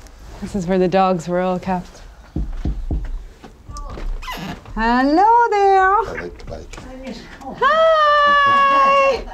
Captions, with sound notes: This is where the dogs were all kept. [knocking] Hello there! I like the bike. Hiiiiii!